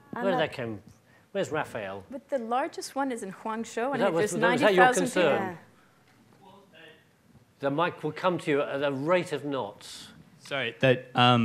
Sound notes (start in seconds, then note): 4.6 murmurs; 7.2 murmuring softly